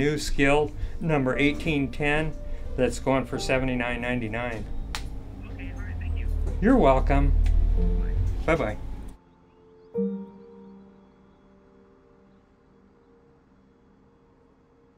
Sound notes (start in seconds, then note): 5.5 voiceover; 7.7 voiceover; 10.2 soft piano music